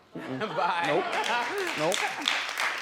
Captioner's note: laughs